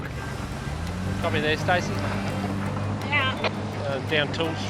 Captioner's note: over walkie-talkie